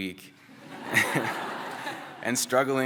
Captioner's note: laughter